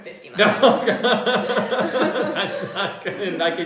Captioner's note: laughter